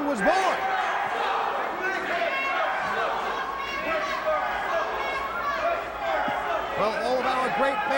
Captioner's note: crowd chatter